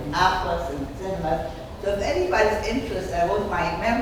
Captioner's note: speaking off mic and muffled